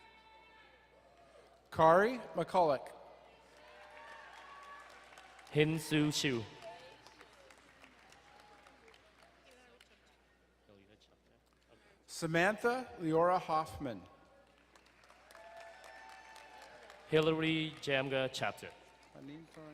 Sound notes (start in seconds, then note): 3.4 crowd cheering and applauding; 7.0 distant cheering; 14.5 crowd cheering and applauding